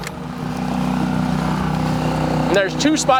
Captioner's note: boat engine rumbling